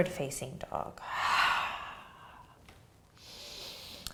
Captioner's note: exhaling